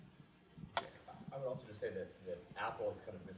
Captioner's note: voiceover